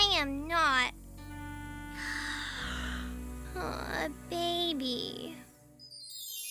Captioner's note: yawns